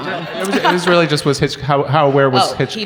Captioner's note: audience laughs